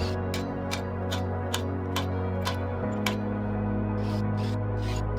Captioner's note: drill whirring